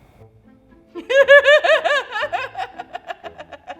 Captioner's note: laughs